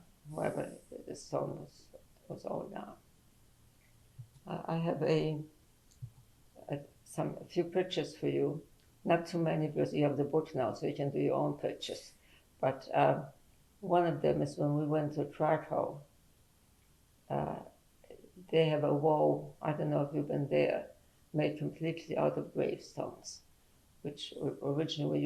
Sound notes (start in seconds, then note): 15.7 pauses for 3 seconds